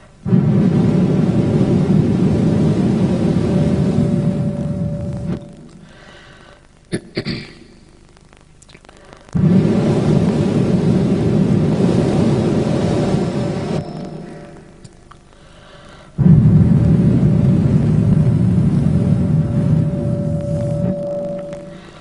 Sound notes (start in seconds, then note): 0.2 blows into the microphone; 9.3 blows into the microphone; 15.8 blows into the microphone